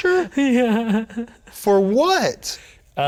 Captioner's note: laughing